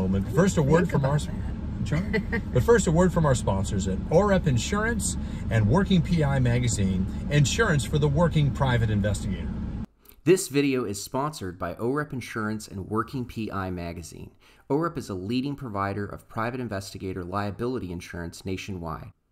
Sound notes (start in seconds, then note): 1.8 laughs